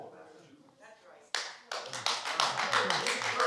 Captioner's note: applause